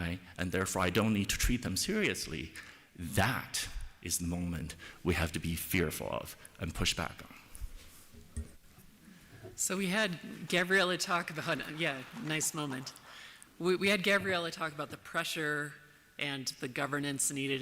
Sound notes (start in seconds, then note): 11.2 applause